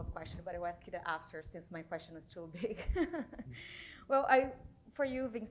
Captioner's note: chuckles